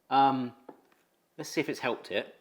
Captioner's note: cup thuds